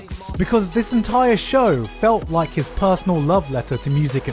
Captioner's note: none